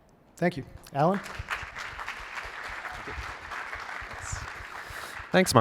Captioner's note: applause